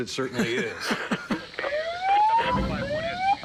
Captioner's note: siren whooping